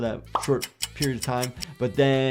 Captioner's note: clock popping and ticking